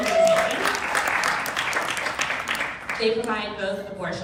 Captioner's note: crowd clapping drowns out speaker